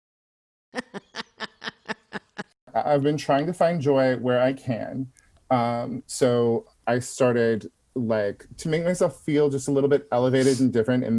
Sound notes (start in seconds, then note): 0.7 laughing